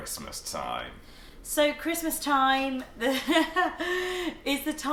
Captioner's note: laughing